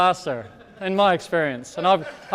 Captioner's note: audience laughing